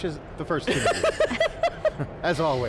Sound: laughs

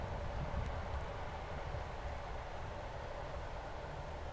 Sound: wind howling

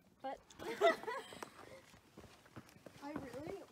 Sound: laughing

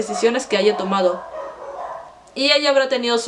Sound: dogs barking

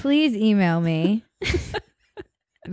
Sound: both laugh

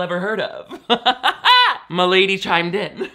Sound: laughs

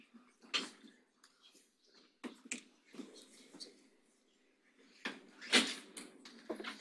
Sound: audience chattering faintly

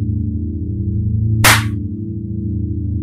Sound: slap

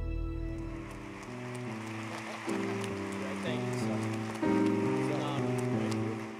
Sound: piano playing; audience applauding

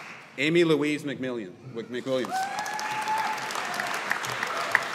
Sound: audience applauding

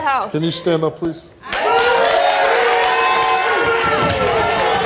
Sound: audience applauding

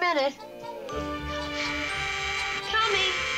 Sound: doorbell buzzing

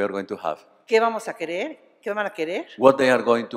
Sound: speaking spanish

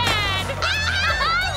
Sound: cheering

